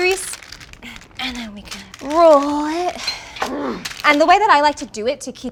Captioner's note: grunting sound